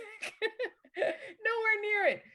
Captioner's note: laughs